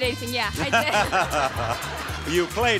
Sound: Bob laughing

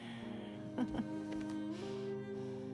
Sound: laugh

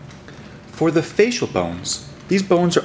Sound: voiceover

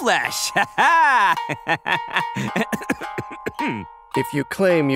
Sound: cough

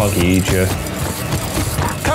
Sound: feet thumping

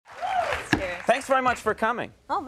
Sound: audience clapping

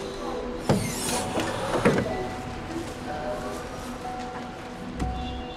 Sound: trunk opening; car alert beeping

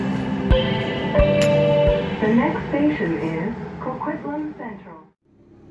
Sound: next Station Chime

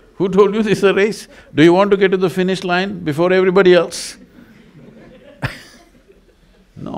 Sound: laughs

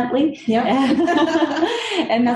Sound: laugh

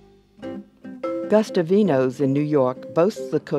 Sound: voiceover

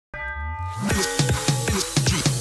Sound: chime chiming; upbeat rap music

